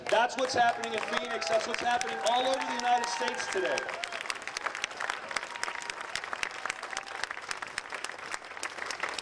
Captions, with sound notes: That's what's happening in Phoenix. That's what's happening all over the United States today. (audience applauding)